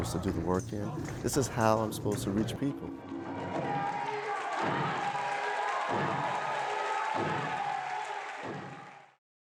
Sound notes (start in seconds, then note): 3.3 stomping, cheers, and applause